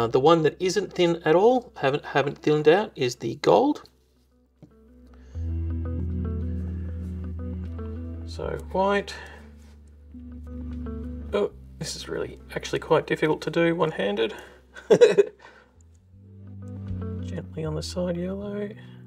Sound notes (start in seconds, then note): 14.7 laughing; 18.8 soft music